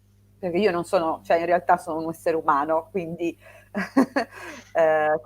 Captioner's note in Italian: risate